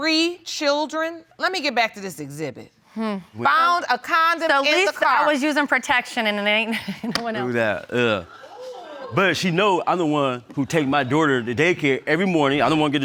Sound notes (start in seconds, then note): 8.2 laughs